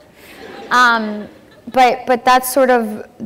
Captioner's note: laughter